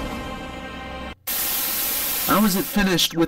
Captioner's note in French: télévision statique